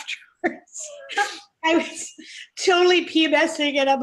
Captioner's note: both laughing